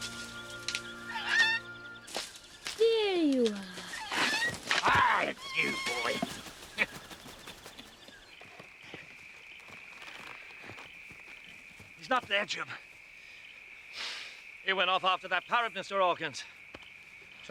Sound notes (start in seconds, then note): 1.0 Captain Flint squawking; 6.7 laughing